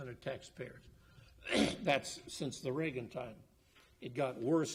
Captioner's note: coughs